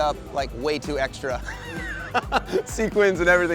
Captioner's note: laughs